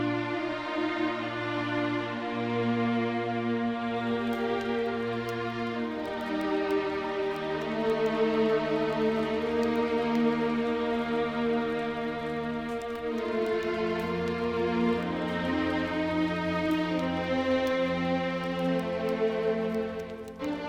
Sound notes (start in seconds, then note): 0.1 somber music continues; 4.9 fire crackling; 4.9 somber music continues; 13.7 fire crackling; 13.7 somber music continues